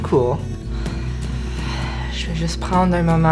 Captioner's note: Hoota sighs